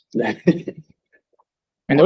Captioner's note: chuckling